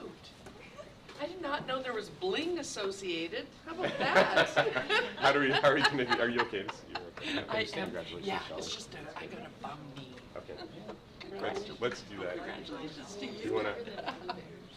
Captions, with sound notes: Get out! I did not know there was bling associated! How about that? (laughter) - How do we, how are you gonna, are you okay? Congratulations. - I got a bum knee. Okay. Let's do that. - Congratulations to you.